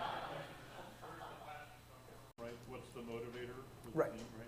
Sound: audience laughing; speaking faintly

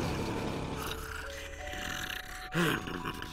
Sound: snoring

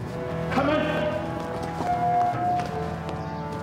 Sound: Lao Ai shouts in foreign language; ominous music

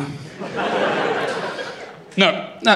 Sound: laughter

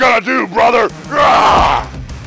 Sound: Hulk yelling; rock music

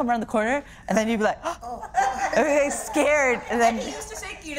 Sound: gasps

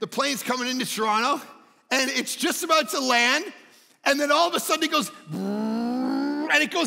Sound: grumbling

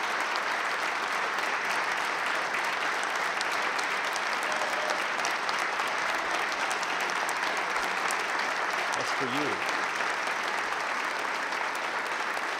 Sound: applause

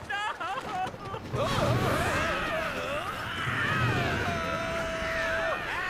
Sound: screaming

